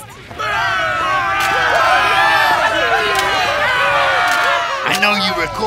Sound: cheering

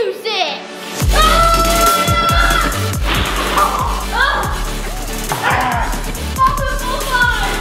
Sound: upbeat music; screaming

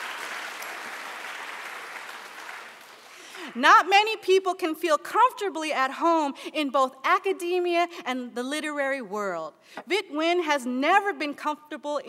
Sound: applause

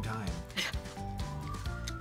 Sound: laughs

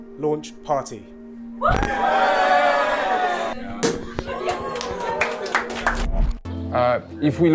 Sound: sounds of cheering and celebration

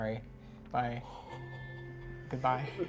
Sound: chuckles awkwardly

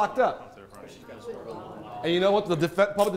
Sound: attendees mumbling

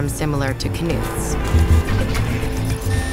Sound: traffic noises; machines buzz

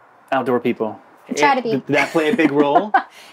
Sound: laughs

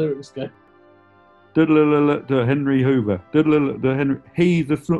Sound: hums melody to song

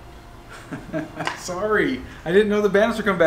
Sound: laughs

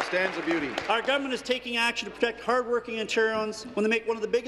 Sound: applause

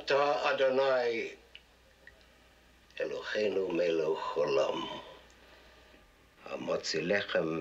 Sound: in Hebrew

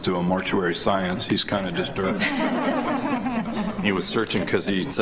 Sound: laughter

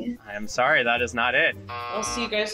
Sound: buzzer rings

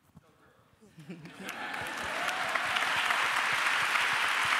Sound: applause

